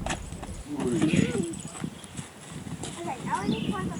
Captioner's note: laughs